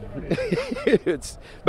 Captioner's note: chuckles